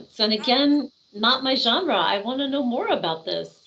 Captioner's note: none